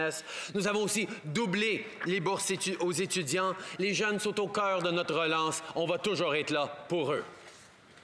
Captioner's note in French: voix de l'interprète